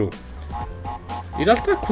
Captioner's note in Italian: rumore di passi